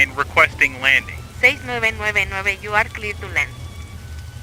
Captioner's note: Spanish